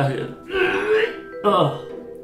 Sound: retches

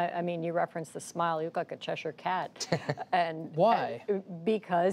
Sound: laughter

